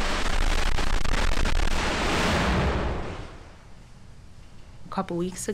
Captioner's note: sound of SpaceX static fire test